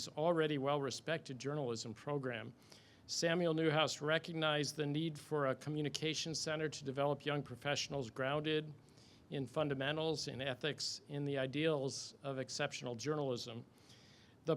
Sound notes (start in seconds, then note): none